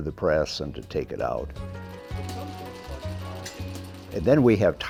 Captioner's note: machinery whirring